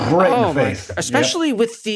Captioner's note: makes explosion noise